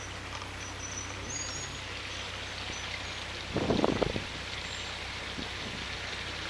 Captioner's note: running water - sound